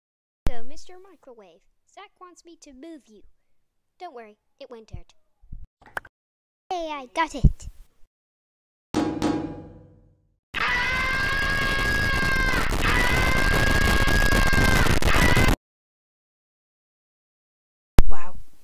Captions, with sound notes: So, Mr Microwave. Zak wants me to move you. Don't worry, it won't hurt. Yay! I got it! [Clanging] [Screaming] Wow.